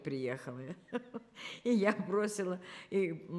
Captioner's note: laughing